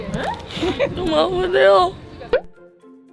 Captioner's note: she's crying because she's in pain from laughing